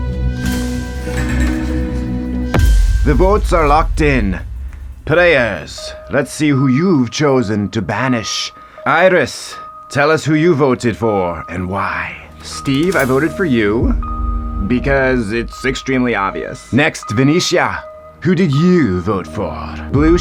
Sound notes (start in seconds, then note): 2.4 pen strikes with dramatic boom